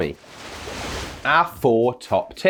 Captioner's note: wave crashing